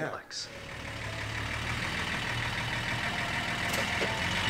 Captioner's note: engine rumbling